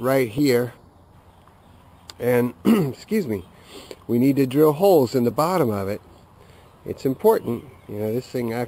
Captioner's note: clear throat